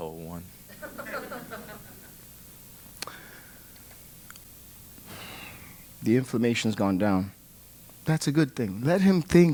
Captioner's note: laugh; sigh